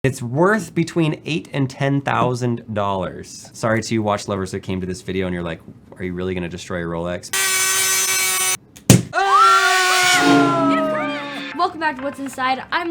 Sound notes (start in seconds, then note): 7.3 saw buzzing; 8.9 loud punch; 9.1 screaming